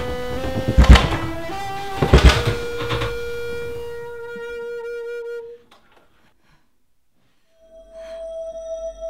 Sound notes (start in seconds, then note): 0.4 door Shuts Loudly